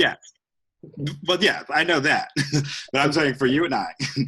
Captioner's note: laughs